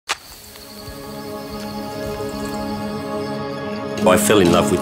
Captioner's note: chirping in distance